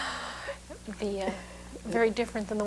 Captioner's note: laughter